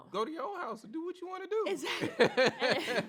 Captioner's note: laughs